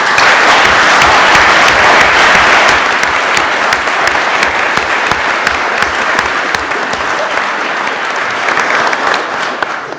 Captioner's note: applause